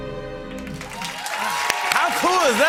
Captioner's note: cheering and applause